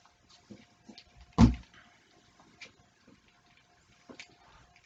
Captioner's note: thump